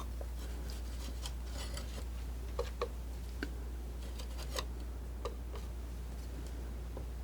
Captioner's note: scratching